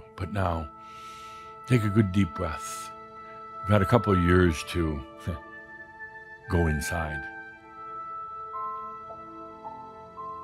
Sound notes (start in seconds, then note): none